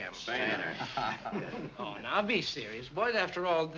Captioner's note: all chuckling